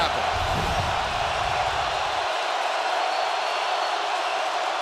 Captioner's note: crowd roaring